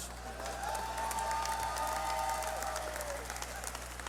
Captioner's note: cheering